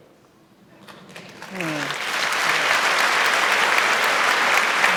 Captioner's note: audience applauding